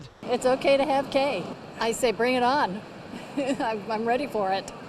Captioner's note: laugh